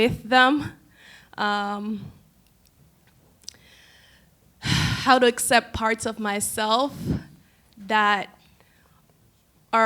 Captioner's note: deep exhale